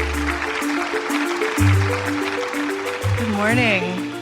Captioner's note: audience clapping